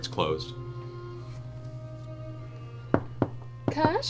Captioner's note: knocks